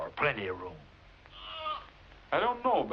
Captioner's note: bleating